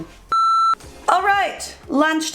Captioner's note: beeping